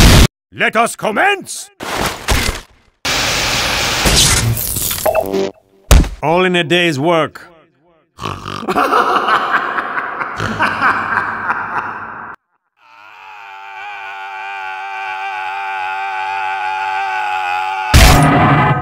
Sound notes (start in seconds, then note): 12.8 soldier's screaming slowly fades in